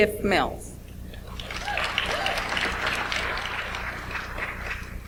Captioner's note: audience applauds